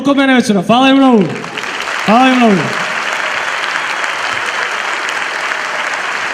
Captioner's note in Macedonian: аплауз